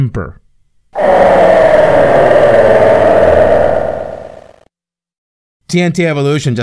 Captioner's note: Icon of Sin death sound